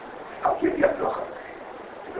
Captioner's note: Yiddish